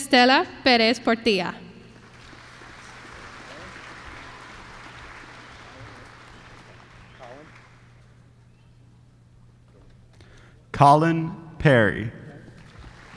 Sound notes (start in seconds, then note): 2.0 applause; 12.6 applause